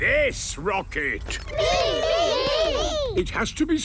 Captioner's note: calling out in turn